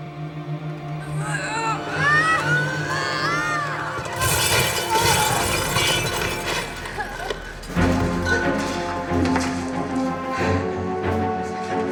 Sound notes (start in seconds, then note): 1.8 Freddie struggling; 4.8 loud crash; 8.8 tense music